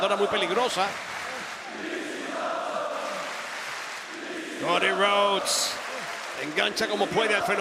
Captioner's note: applause